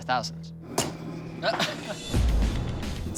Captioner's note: laughs